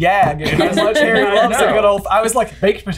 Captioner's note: laughing and talking over each other